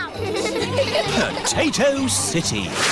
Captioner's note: all giggling